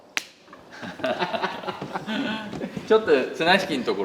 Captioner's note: laughter